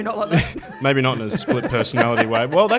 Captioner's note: laughs